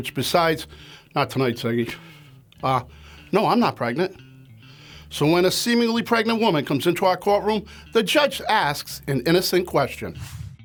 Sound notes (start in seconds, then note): none